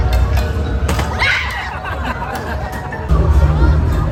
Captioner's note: people screaming; people laughing